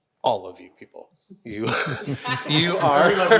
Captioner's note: everyone laughing